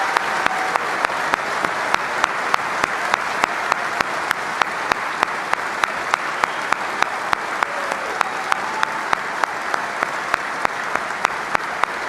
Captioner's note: applause